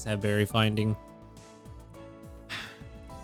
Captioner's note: sighs